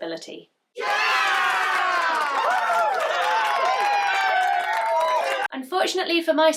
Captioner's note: cheering sounds